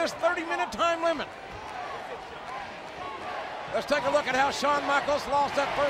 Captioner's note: applause